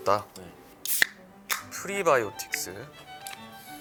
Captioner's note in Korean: 청량한 탄산 소리